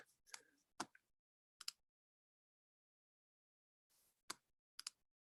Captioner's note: buttons click